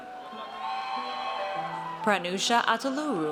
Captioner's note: audience cheers